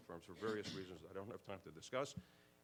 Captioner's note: clears throat